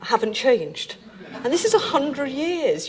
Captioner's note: audience laughing